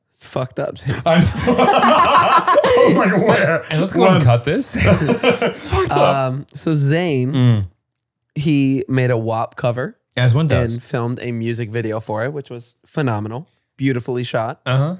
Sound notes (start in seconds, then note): 0.9 they laugh; 4.6 all laughing